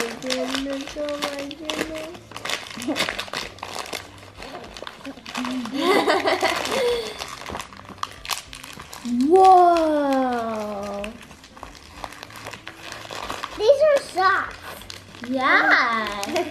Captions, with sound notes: - Oh my goodness, oh my goodness. - (laughs) Whoa! (paper rustling) - These are socks. - Yeah!